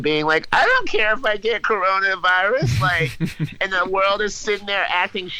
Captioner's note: laughs